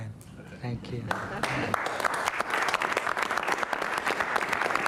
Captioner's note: applause